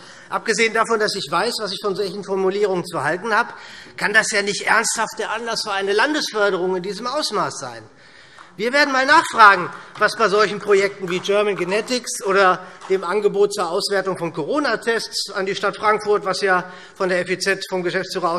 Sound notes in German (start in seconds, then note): 8.2 Beifall